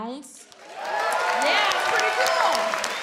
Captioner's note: audience cheers and claps